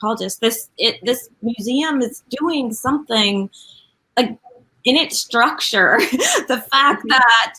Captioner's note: laughs